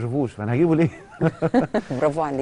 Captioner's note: laughter